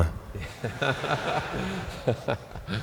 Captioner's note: laughter